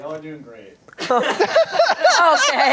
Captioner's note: everyone laughs